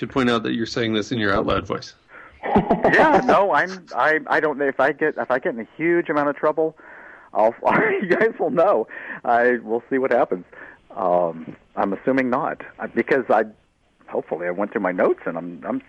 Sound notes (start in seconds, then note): 4.0 laughter